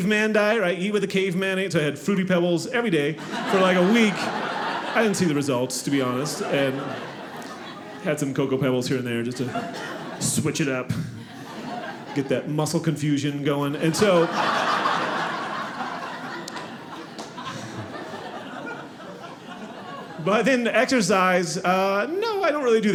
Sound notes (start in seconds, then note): 6.0 audience laughing; 10.8 audience laughing